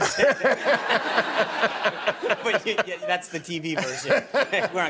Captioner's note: laughter